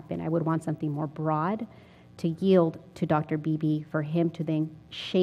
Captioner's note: none